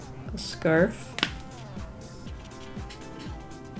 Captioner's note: marker cap clicks off